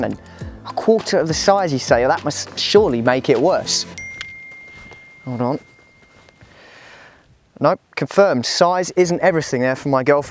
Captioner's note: phone beeps